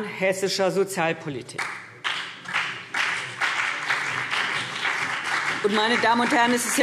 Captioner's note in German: Beifall CDU und BÜNDNIS 90/DIE GRÜNEN